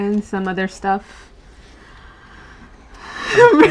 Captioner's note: deep breath; laughs